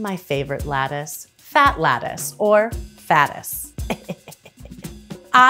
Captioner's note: laughs